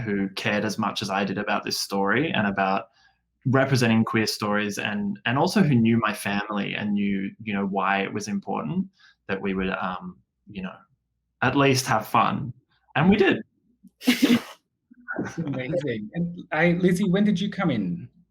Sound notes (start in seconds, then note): 14.0 chuckles